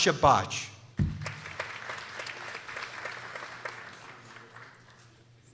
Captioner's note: people applauding